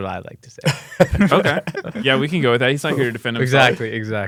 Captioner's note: laughs